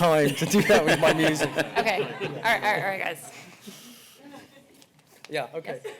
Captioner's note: laughter